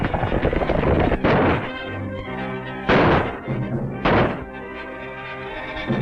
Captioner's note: gunshots